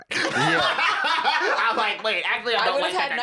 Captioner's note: laughs